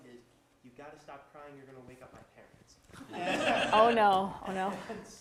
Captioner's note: audience laughter